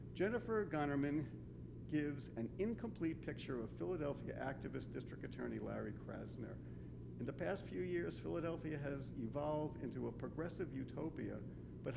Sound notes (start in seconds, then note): none